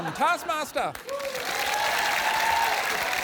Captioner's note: cheering, applause